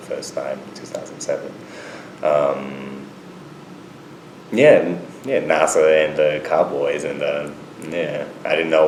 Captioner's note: none